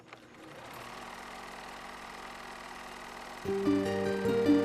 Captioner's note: film projector whirls